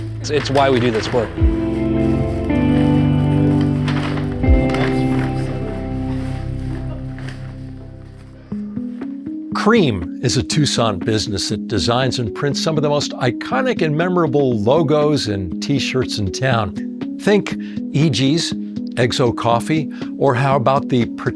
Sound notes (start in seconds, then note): 2.7 bag crinkling